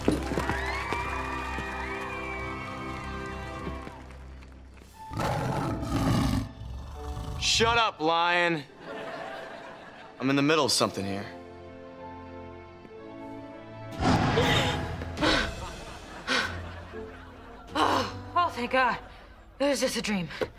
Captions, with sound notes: [cheering] [roaring] Shut up, lion! I'm in the middle of something here. [gasping] Oh, thank God! It was just a dream!